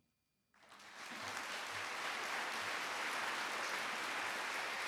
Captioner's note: audience applauding